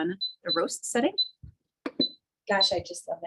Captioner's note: machine beeping